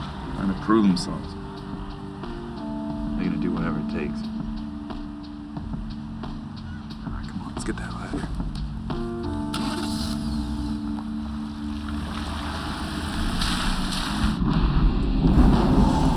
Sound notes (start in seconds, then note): 9.5 starts engine